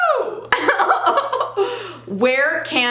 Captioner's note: giggles